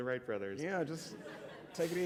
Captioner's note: laughter